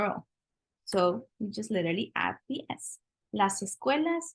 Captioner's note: spanish